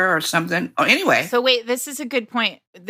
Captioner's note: none